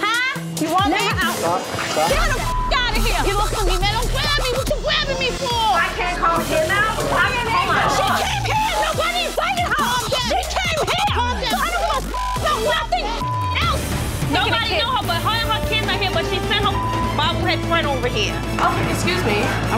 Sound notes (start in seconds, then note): 2.1 beep; 11.9 beep; 16.6 beep